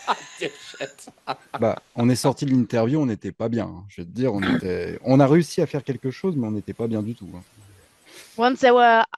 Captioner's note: translating from French